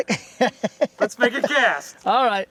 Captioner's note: laughter